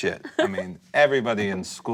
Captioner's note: laughter